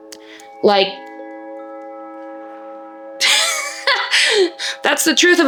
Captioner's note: laughs